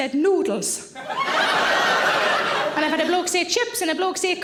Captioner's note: audience laughing